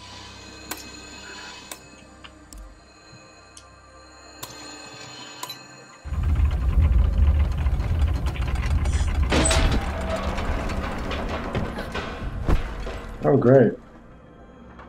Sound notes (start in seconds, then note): 6.0 machinery grinding; 9.2 hatch opening